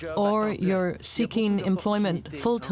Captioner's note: speaking French